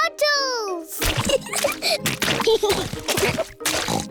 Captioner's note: oinks; both giggling